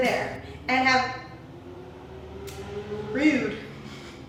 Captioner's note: motorcycle whirs